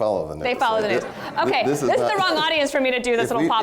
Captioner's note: laughter